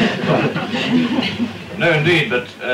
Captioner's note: laughter